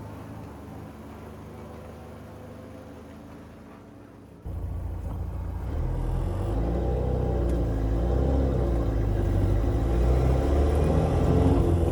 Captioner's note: engine revving